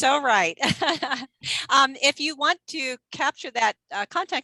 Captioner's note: chuckling